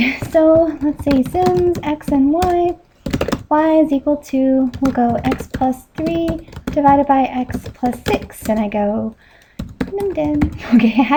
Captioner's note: numden...chuckles